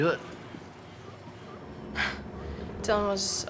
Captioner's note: scoffs